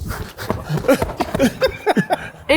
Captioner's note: breathing loudly and deeply; laughs happily